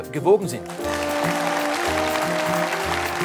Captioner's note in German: Applaus